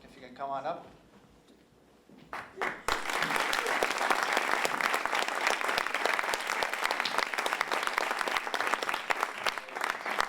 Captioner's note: applause